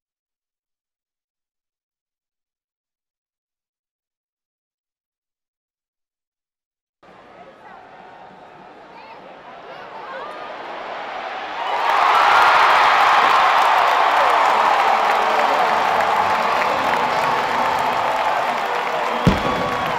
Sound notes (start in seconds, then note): 7.2 crowd Noise; 10.7 cheering